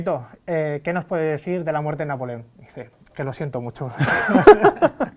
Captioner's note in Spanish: Risas